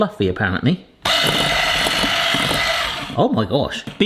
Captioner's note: whisk whirring